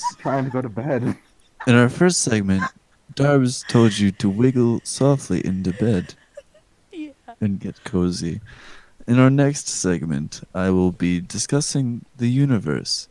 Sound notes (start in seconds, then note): 3.5 heavy breathing